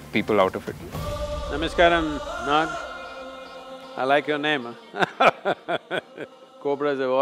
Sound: laughs

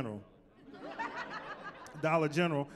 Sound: laughter

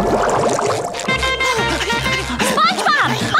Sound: panting

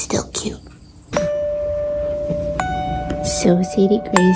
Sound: bells ringing

